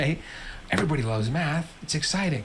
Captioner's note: laughs